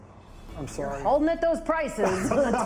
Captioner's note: laughs